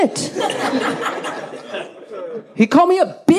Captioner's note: audience laughs